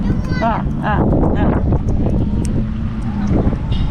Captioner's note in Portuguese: vento